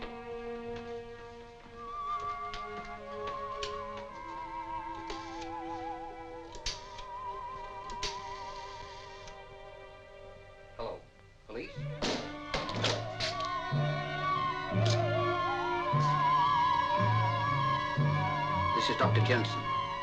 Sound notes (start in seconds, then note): 12.0 door bangs